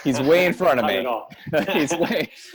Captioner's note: laughs